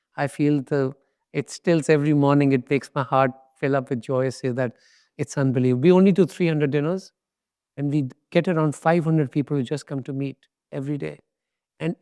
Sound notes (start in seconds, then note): none